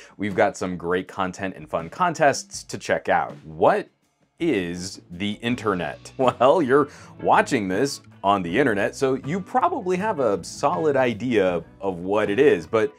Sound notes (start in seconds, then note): 6.2 chuckles